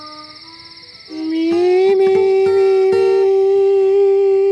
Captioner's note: humming